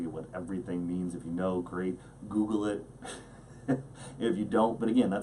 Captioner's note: laughs